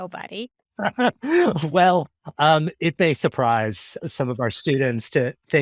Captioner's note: laughing